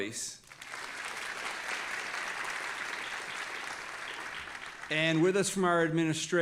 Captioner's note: audience applauding